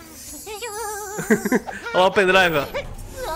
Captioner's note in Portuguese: risos